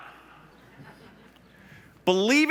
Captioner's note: laughs